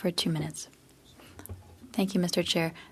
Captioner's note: speaking French